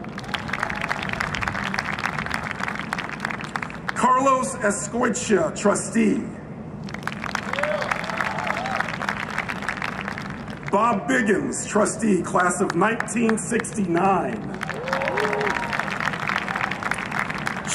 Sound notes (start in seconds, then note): 0.0 applause; 6.9 cheering and Applause; 14.4 cheering and Applause